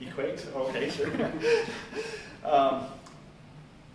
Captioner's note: laughter